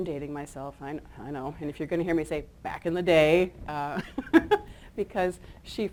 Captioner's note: chuckles